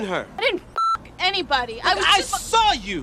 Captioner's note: beep